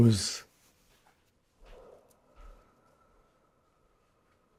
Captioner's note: pauses 6 seconds